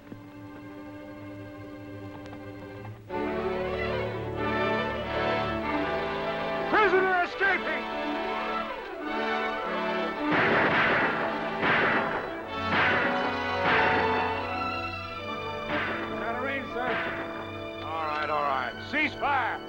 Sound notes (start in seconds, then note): 0.2 suspenseful music; 3.2 dramatic orchestral music; 10.0 guns fire